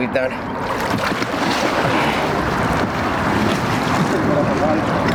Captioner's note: water splashing